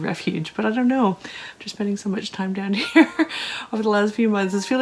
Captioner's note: laughter